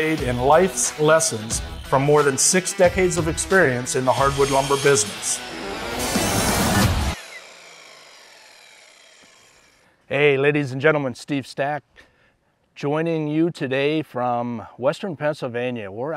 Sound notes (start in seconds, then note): 5.9 lively rock music; 7.4 saw buzzing